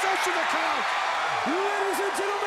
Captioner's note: crowd cheering